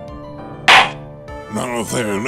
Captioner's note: gavel slams!